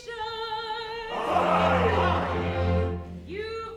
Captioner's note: men cheer; sung